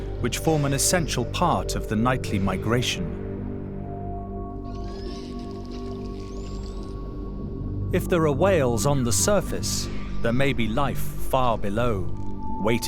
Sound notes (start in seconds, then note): 4.7 high-pitched screeches